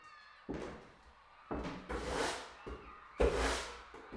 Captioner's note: sounds of distant playground